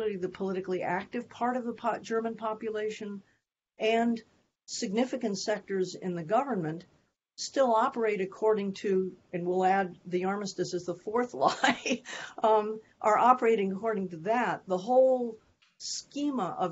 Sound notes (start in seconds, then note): 7.9 laughter